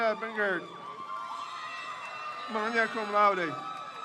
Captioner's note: crowd cheers